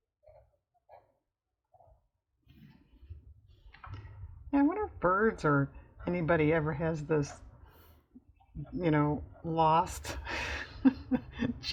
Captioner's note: laughs